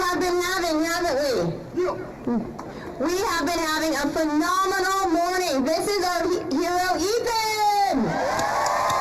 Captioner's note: applause